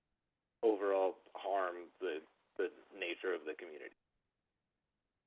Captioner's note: by phone